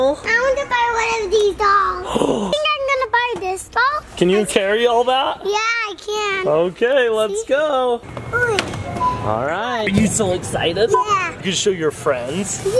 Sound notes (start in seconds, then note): 2.0 gasp